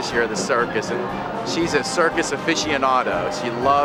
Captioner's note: laughs